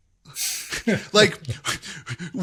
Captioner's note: laugh